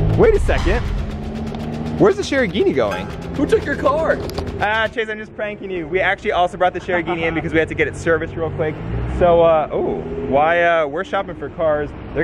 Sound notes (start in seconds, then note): 6.7 laughs